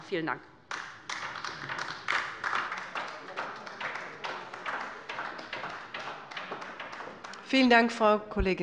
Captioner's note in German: Beifall bei der LINKEN